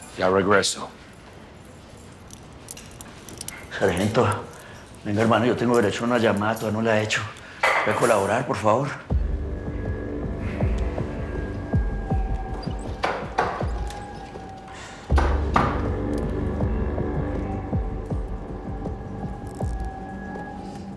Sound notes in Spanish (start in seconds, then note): none